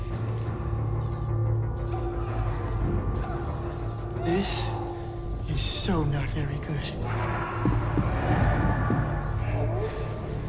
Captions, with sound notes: (foreboding music) (voices wailing) - This is so not very good. (voice growls)